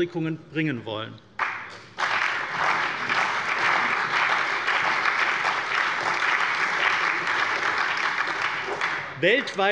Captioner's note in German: Allgemeiner Beifall